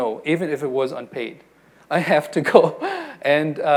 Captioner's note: laughs